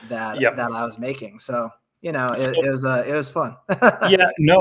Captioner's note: laughs